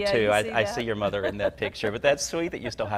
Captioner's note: laughs